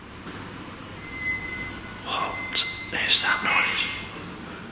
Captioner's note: eerie wailing